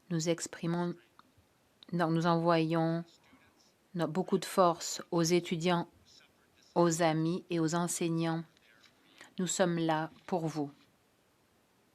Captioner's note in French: voix de l'interprète